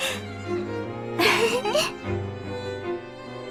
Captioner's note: giggle